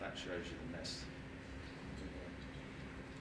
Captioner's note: speaking faintly